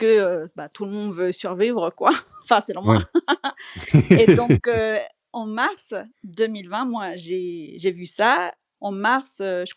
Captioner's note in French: rires